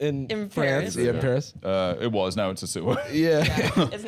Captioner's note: laughing